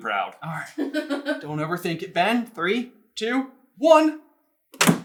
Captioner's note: laughing